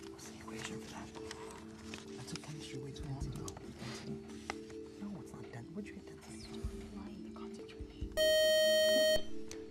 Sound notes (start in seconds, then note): 6.5 time-out buzzer